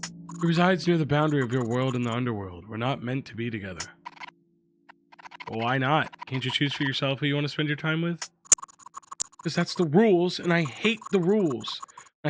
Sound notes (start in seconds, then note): none